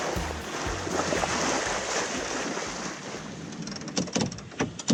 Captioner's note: water flowing; winch grinding